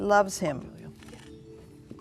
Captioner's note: beeping